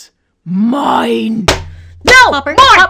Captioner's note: bonk